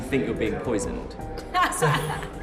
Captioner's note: laughs